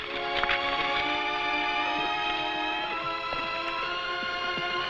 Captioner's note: horse hooves pattering